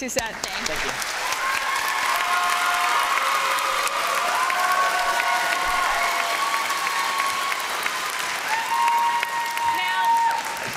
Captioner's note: applause